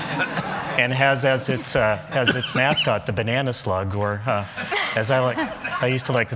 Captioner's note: laughter